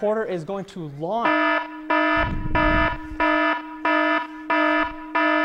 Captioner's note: alarm